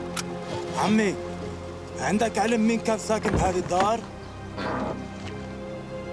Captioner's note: they converse in arabic